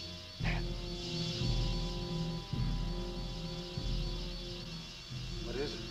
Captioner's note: muffled wasps buzzing